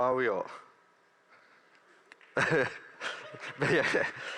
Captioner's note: laughter